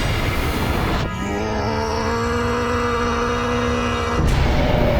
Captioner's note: yelling